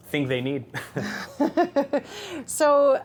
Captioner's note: laughing